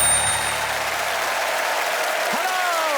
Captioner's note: applause